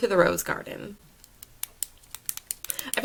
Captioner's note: excessive pen clicking lol